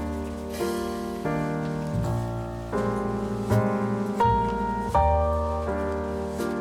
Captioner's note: small fire